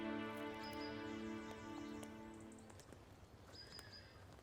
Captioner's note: birds chirping